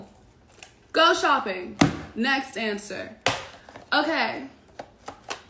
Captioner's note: slams phone